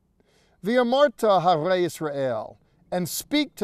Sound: speaking in Hebrew

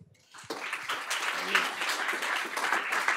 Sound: applause

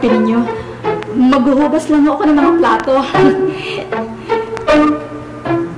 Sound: chuckles

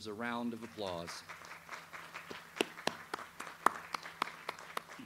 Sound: audience applauds

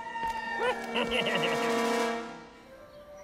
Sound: evil laugh

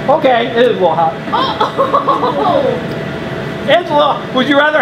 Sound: laughs

